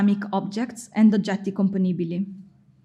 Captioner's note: speaking in foreign language